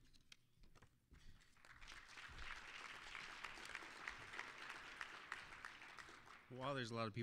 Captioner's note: applause